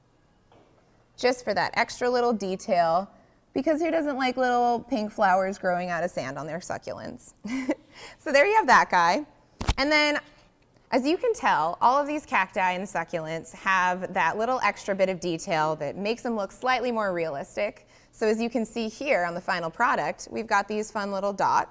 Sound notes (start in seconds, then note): 7.4 chuckles